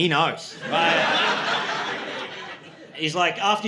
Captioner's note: audience laughing